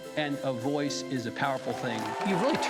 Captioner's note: audience applauding